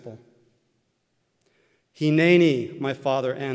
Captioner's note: Hebrew